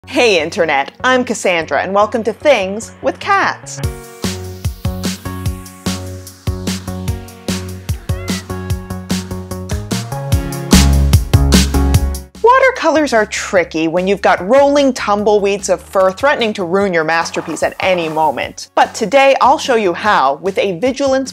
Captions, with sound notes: Hey, Internet! I'm Cassandra and welcome to Things... with Cats! (peppy music) (smol meow) Watercolours are tricky when you've got rolling tumbleweeds of fur threatening to ruin your masterpiece at any moment! But today, I'll show you how - with a vigilance